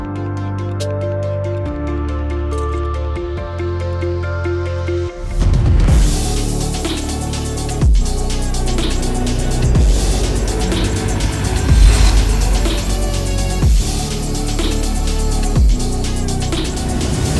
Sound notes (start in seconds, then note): 5.7 dramatic music; 10.0 machinery whirring